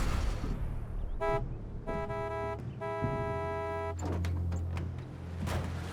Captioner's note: honking